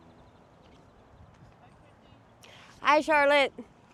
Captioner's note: people chatting